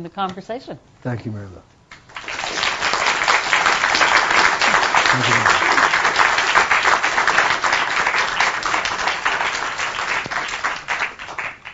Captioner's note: applause